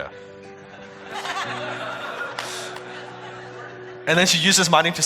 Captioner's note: audience laughing